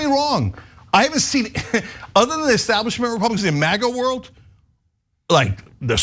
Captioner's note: laugh